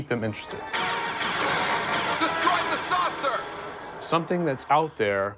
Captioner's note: machine voice and explosions